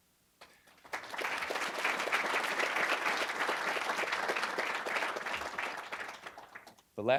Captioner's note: applause